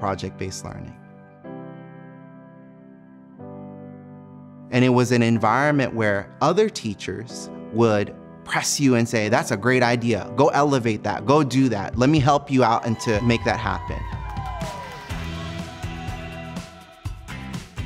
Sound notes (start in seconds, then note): 12.7 crowd cheers; 15.1 upbeat music